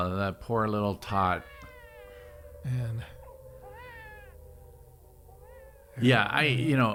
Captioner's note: baby crying; alarm blaring